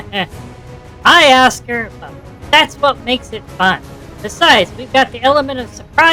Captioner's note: laughing